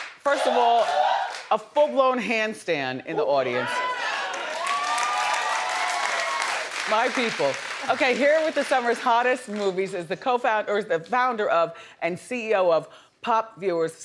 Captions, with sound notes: First of all, a full-blown handstand in the audience. (audience cheering) My people. Okay, here with the summer's hottest movies is the founder of and CEO of PopViewers,